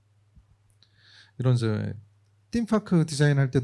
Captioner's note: speaking korean